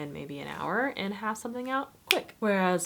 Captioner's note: fingers snapping